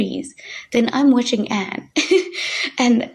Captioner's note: chuckling